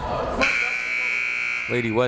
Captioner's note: people shouting in the crowd; buzzer ringing